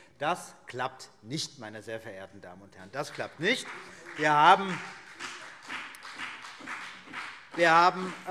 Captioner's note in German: Beifall BÜNDNIS 90/DIE GRÜNEN